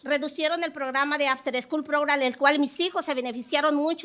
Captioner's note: speaking Spanish